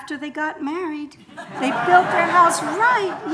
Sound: audience laughing

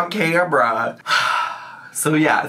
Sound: sighs

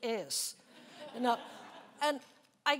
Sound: laughing

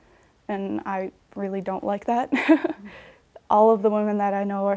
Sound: laughs

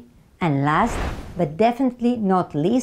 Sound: slide whooshes

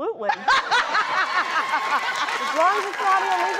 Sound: crowd laughs

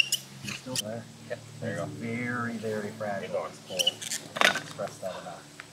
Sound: background talking

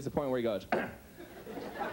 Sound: clears throat; audience laughs

